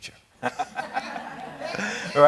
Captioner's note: laughing